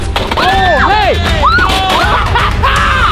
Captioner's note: screaming; laughing